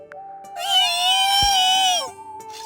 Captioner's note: sob